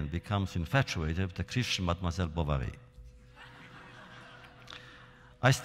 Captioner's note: laughter